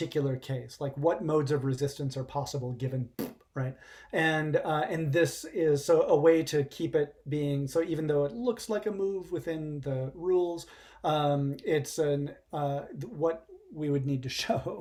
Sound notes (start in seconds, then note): 3.1 pbbt